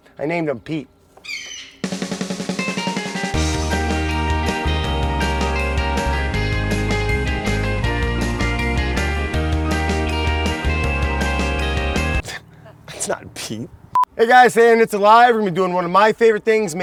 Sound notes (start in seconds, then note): 1.1 bird squawks; 2.4 upbeat music